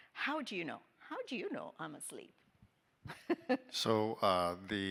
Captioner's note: laughing